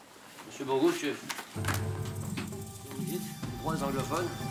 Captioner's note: speaks French; tense music